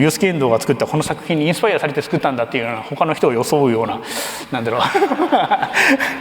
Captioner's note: laughs